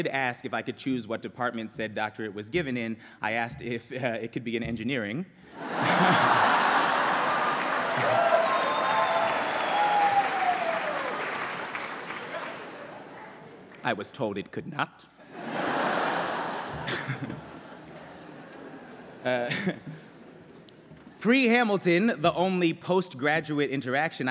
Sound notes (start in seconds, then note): 5.6 laughter; 7.7 cheering; 15.2 laughter